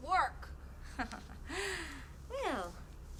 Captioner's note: laughing